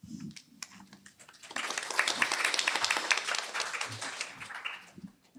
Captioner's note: applause